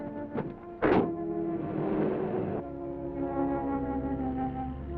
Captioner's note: truck door closing